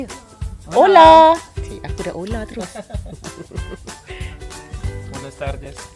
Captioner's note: laugh